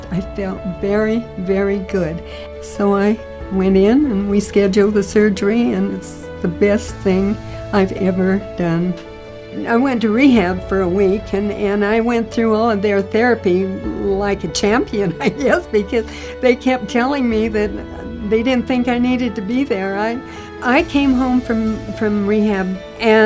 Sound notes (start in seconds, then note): 14.7 laughs